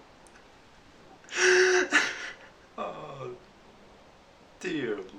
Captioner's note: laugh